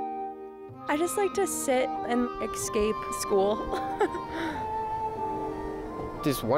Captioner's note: chuckles